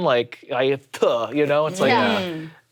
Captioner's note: spits